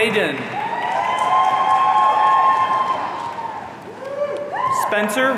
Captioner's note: audience cheering